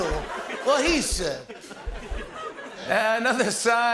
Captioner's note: laughter